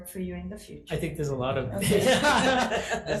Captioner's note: laughing